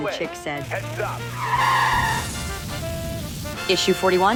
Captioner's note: tires screeching